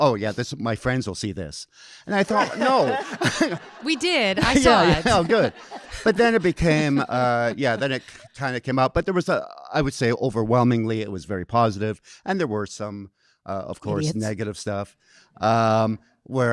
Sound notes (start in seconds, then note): 2.2 audience laughing